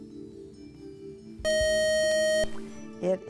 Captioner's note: buzzer